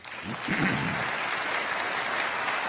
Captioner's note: crowd applauding